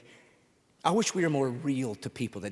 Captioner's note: none